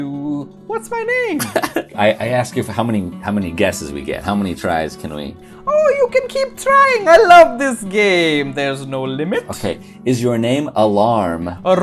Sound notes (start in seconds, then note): 1.4 laughs